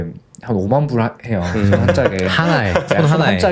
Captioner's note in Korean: 웃음